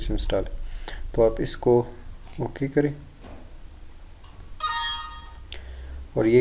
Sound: computer annoying sound

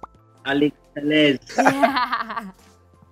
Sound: laughs

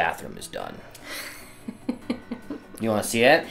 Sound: laughing

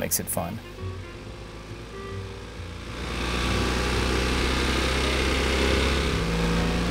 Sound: jazzy upbeat music; car engine puttering

